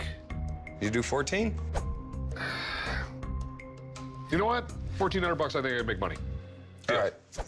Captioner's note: sighs